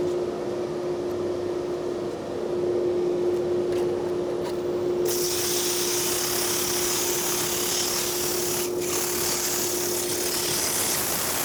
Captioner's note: lathe whirring